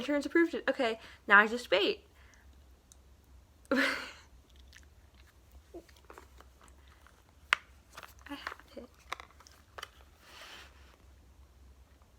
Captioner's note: laughs